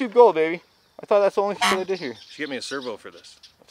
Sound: horn honks

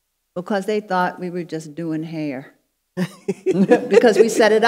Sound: panelists laughing

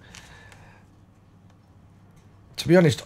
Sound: silence

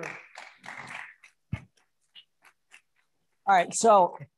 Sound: audience applauding

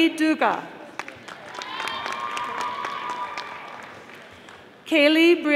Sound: audience applauding

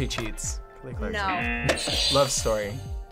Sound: audio buzzes

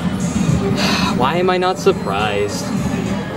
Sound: electronic game music; upbeat music; sighs

